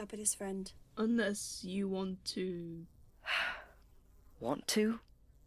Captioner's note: Remus sighs